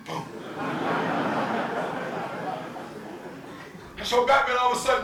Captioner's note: audience laughing